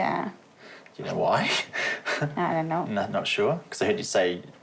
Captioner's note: chuckles